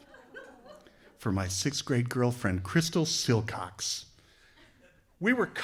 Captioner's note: laughter